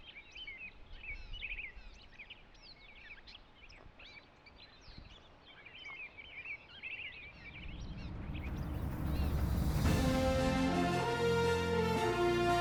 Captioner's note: sounds of birds chirping